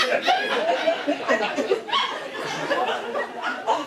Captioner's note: laughing